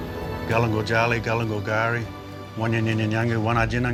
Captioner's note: man speaks indigenous language